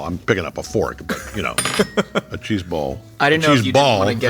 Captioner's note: laughing